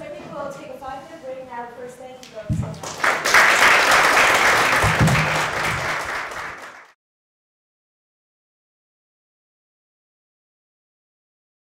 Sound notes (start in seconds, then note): 2.7 audience applause